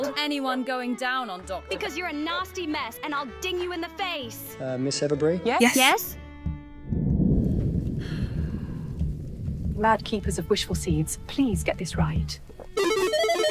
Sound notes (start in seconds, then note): 7.0 thunder rumbles